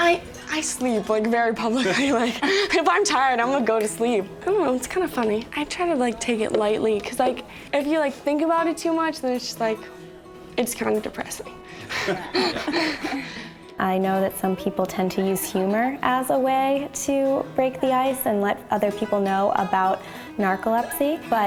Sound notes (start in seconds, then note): 11.8 laughter